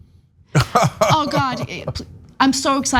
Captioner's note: laugh